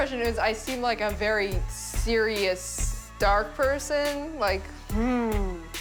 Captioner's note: hums